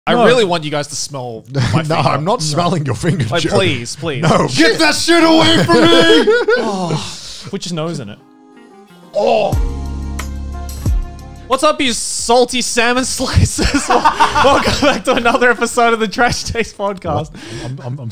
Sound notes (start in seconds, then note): 6.2 exhales loudly; 9.1 groans; 10.0 soft music